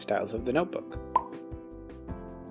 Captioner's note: pop